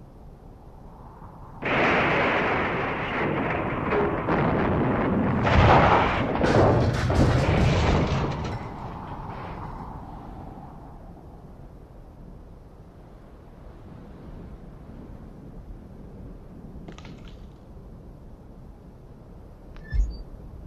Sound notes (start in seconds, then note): 0.2 powerful wind gusts; 2.1 large thunder crash; 5.5 storm debris falling